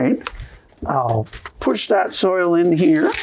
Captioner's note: rustling sounds